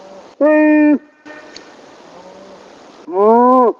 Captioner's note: imitating animal call; animal call; imitating animal call; animal call; imitating animal call